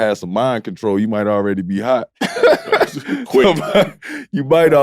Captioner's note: laughs